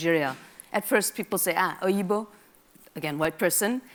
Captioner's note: speaks in a foreign language